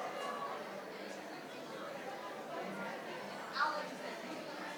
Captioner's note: participants chatter